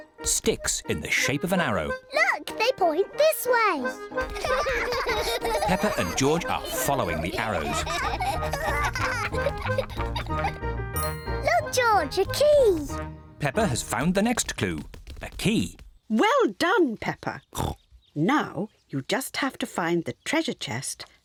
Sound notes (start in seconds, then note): 4.2 both laughing; 17.6 oinks